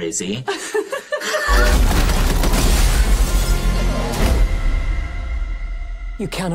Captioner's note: pair laughs; debris crashing